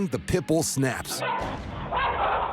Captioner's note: barks